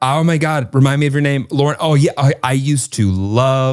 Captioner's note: none